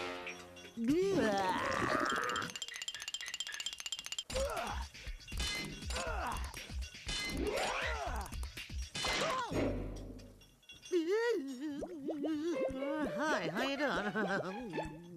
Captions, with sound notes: BLAH! [grunting] [screaming] [muffled groaning] HI, HOW YOU DOING?